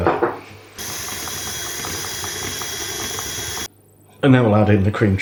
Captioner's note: mixer noise